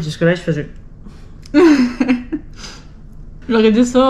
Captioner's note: laughs